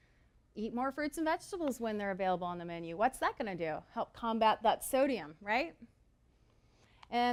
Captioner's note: intake